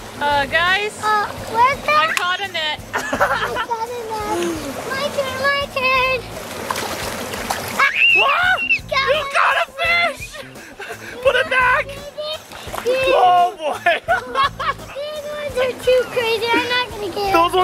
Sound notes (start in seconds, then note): 2.9 laughter; 7.8 screaming